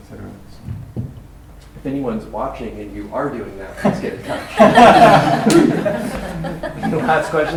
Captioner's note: laughter